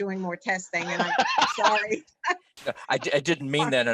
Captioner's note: laughing